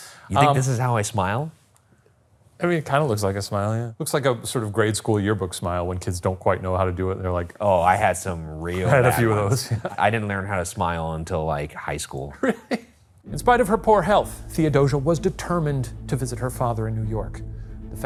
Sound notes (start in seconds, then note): 8.7 chuckles; 12.4 laughs